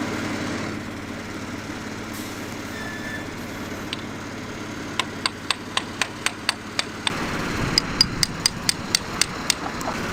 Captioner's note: hammer tapping